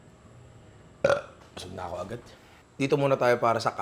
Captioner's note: burped